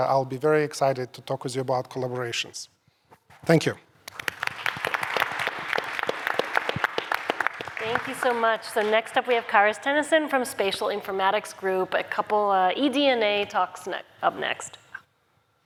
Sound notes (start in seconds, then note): 4.0 applause